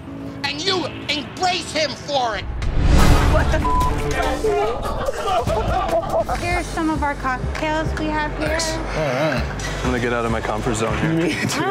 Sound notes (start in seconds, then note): 3.5 beep